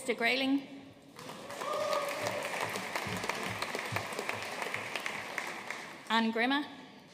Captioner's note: audience cheering and applauding